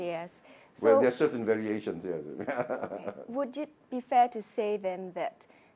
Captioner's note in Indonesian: Tertawa